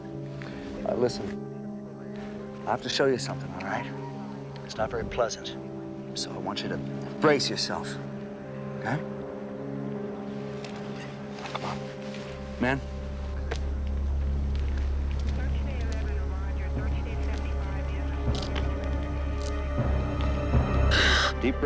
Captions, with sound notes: - Brenda, thanks for comin'. Listen, I have to show you somethin', all right? It's not very pleasant, so I want you to brace yourself? Come on. Men. (someone speaking on police rad) Cover it up.